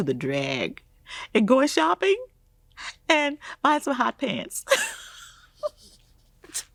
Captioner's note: laughing